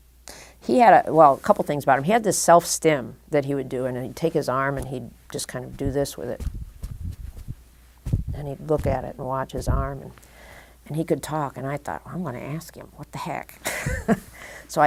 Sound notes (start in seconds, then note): 5.3 thumping; 13.6 chuckle